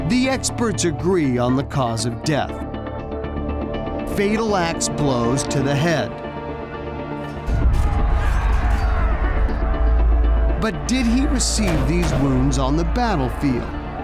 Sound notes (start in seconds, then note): 7.4 metals scraping; 8.2 warriors crying